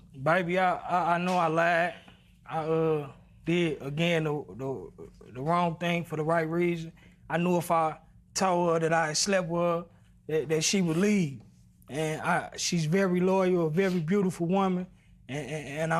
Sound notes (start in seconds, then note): none